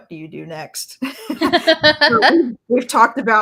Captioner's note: laughs